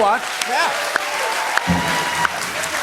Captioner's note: cheers and applause